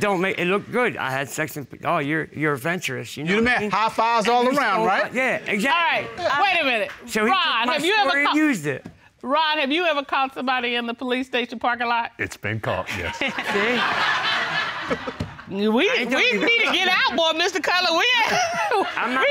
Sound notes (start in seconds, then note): 12.8 all laugh; 18.2 chuckles